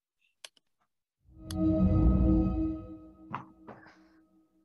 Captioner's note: ethereal Woosh